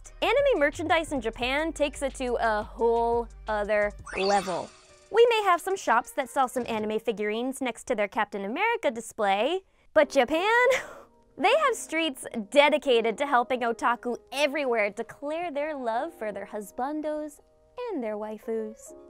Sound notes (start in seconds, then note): 10.7 chuckles